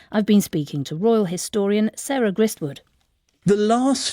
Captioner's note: none